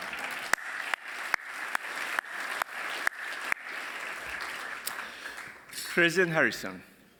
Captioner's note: applause